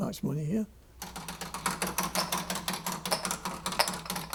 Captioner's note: Wheel of fortune rolling